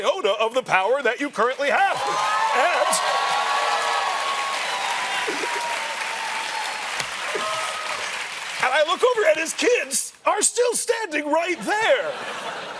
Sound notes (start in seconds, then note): 1.9 cheers and applause